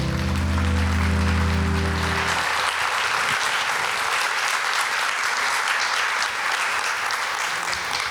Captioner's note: music fades, live Audience applaudes